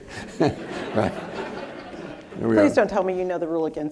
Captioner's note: audience laughing